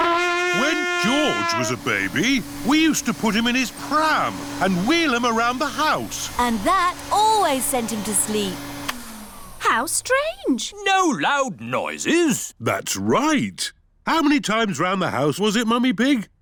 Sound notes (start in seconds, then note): 8.6 whirring stops